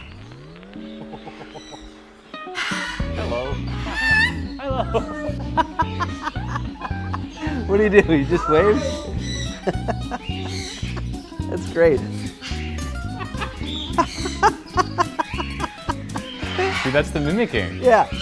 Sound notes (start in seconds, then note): 0.1 country music; 3.1 bird chirps twice; 5.5 laughs; 9.1 laughs; 13.0 parrot imitates Nathan's laugh; 13.1 laughs